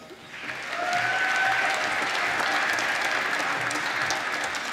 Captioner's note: applause